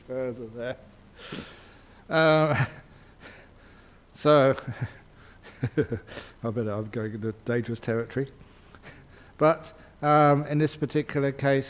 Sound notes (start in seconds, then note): 0.0 Ajahn laughs; 5.4 Ajahn laughs